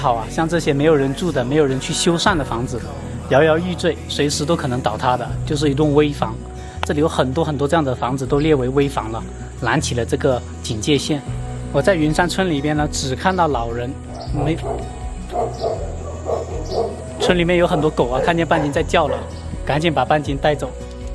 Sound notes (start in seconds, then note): 15.2 barks; 15.2 狗叫声